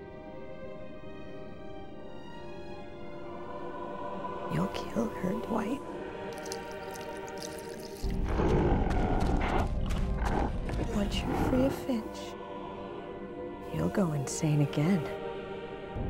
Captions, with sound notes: (dramatic choral music) - You'll kill her, Dwight. (growling) Once you're free of Finch, you'll go insane again.